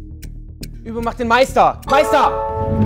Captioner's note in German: Klingeln